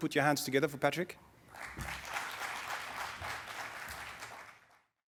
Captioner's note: audience clapping